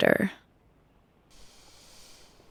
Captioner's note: deep breath